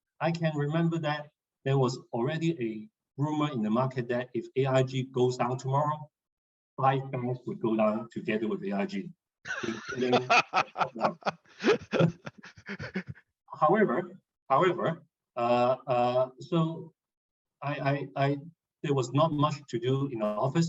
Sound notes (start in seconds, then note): 9.4 laughs